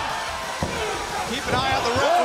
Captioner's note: crowd chatter